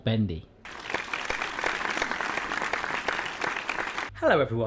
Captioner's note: applause